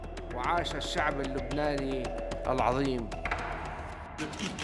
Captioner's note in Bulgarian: Аудио на арабски